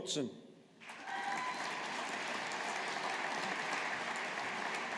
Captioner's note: audience applauding